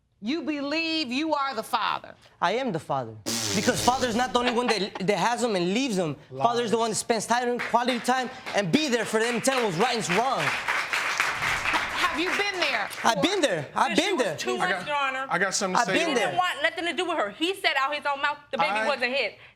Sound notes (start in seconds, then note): 3.2 blowing raspberries